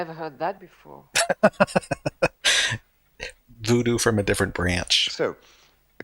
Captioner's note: laughing